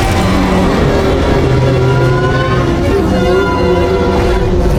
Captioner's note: creature roaring in pain